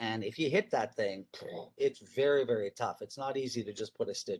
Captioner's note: blows a raspberry